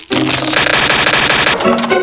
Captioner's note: sus Noises